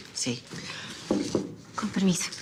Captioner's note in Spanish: Toques en la puerta